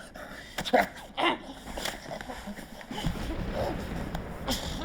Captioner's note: DeHart gasping